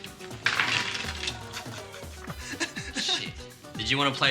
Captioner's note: cards clattering